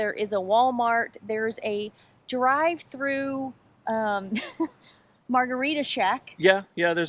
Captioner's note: laughs